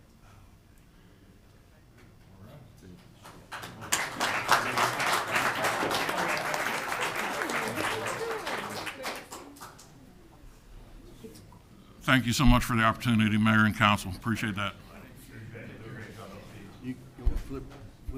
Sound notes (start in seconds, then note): 3.5 audience applauding